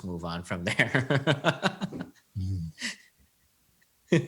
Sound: laughs

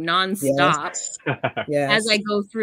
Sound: laughs

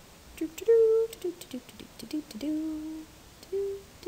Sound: instructor humming

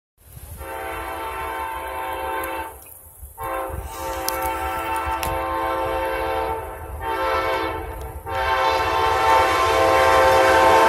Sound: train horn

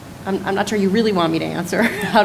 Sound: laughs

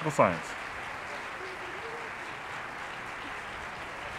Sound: audience applauding

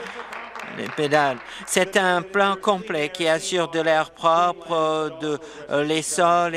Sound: applause

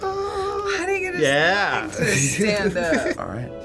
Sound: chuckles

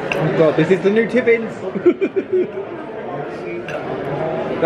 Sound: laughs

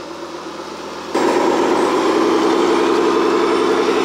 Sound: engine runs

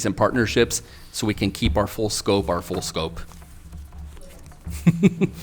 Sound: laughs

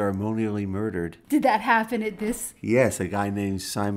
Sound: voiceover

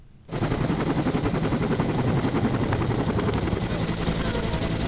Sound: helicopter blades whirring

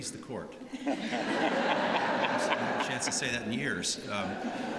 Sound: laughter

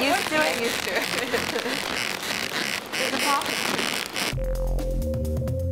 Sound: squeaking

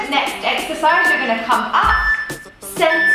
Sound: timer beeping

